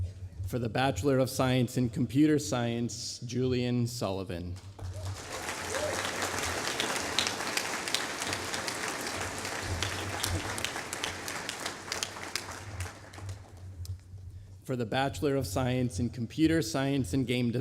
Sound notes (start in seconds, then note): 4.6 applause